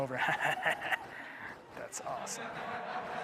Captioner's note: laughing